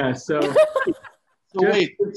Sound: laughter

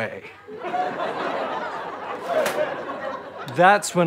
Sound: audience laughter

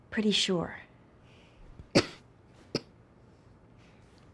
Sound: coughing

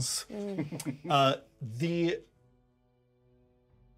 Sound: speaker chuckles

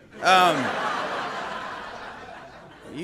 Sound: audience laughter

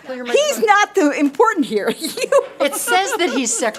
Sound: laughs

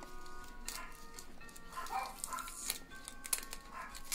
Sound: dog barking

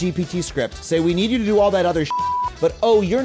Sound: beep

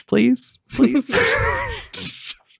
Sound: laughing

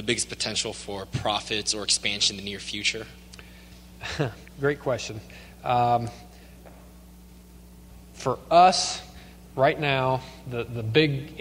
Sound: chuckles

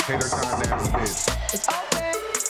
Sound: mysterious music; knocking

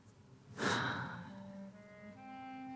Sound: exhaling

